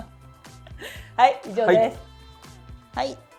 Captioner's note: laughs